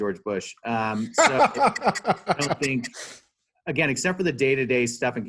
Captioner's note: laughing